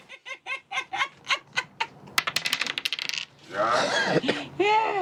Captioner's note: laughing